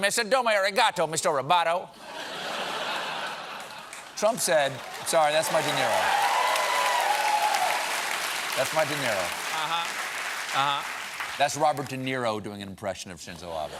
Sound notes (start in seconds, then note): 3.3 applause; 4.2 laughter